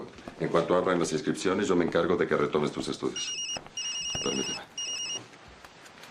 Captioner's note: phone ringing